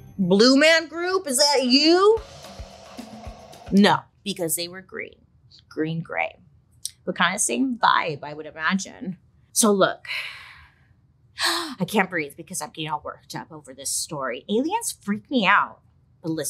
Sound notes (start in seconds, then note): 2.0 drum music; 10.4 breathes deeply